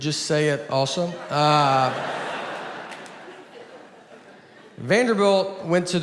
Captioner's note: audience laughs